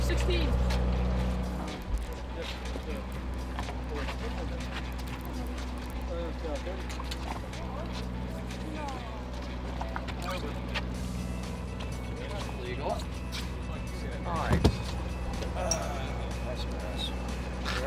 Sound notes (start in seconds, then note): 1.3 crew chatting